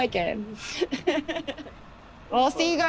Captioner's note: laughs